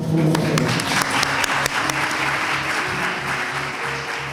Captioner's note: crowd applause